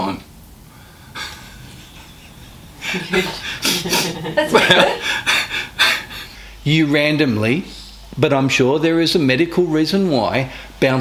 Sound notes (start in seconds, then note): 1.1 chuckles